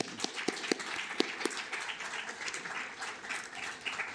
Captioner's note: applause